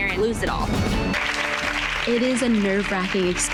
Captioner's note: girls applauding